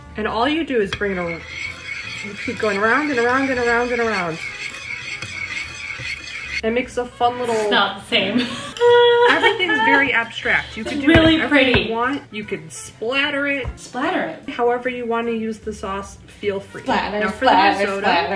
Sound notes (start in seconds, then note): 5.1 spoon scraping on plate; 8.2 laughing